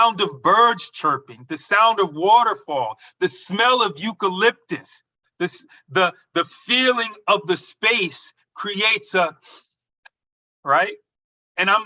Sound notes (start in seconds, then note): 9.4 inhales